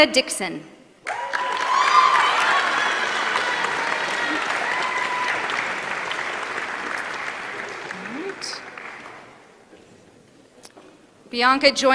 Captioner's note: applause